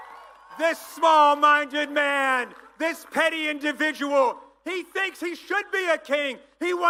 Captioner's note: applause